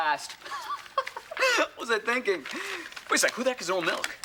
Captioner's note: laughs